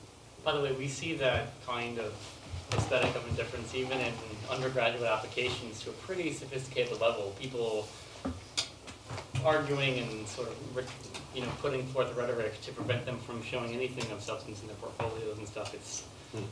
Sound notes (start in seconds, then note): none